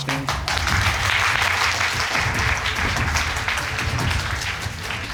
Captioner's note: audience applauding